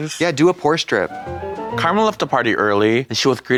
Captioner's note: bright chime